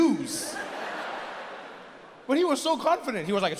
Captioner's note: audience laughs